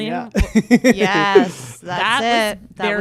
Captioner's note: laughs